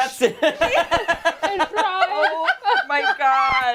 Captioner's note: laughter